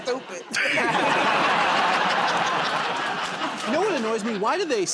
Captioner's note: laughter and applause